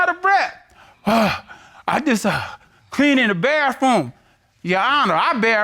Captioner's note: imitates panting